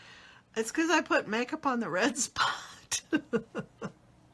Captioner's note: laughs